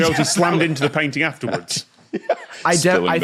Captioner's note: giggles